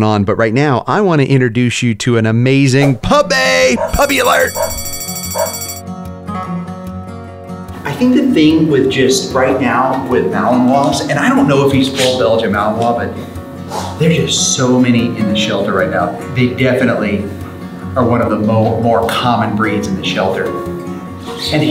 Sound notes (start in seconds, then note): 3.7 puppy barking; 3.8 bell ringing; 6.6 light-hearted music